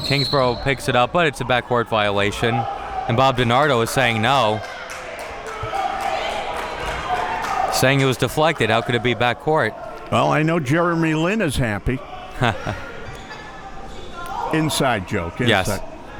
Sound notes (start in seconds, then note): 5.5 spectators applauding and chattering